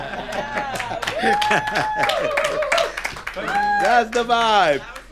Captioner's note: people clap and cheer; all chuckle